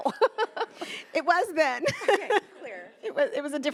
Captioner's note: laughing; laughs